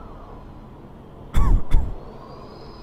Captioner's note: distant cough